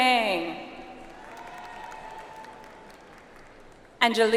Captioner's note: audience applauds